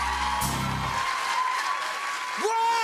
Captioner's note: cheers and applause